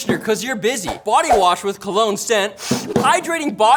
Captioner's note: sniffs